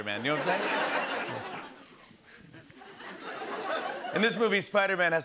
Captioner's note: laughter